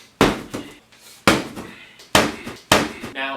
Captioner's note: smack